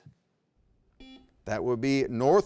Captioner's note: buzzer beeps